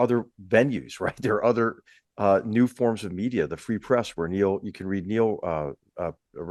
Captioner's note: laugh